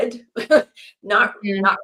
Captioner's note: laughs